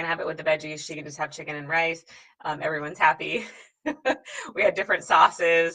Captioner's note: laughs